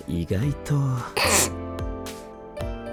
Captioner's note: snickers